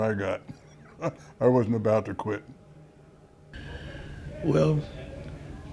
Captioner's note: laughs